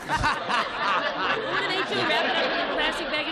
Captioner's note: laughter